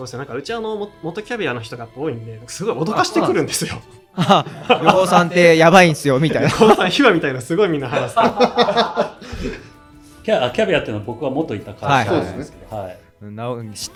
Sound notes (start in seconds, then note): 7.8 laughs